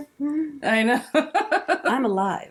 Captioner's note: laughing